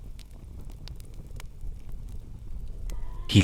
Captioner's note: sound of TV in background